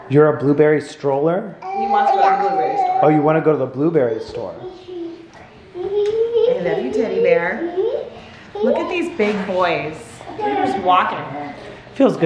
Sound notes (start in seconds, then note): 5.8 giggling